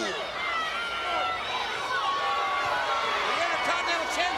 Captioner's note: crowd cheers